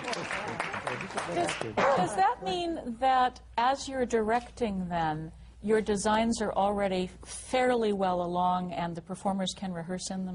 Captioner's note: laughter, applause